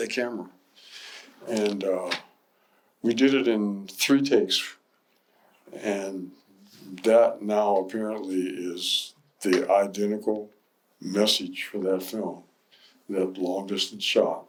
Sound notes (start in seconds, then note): none